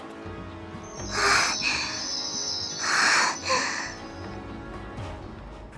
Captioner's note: panting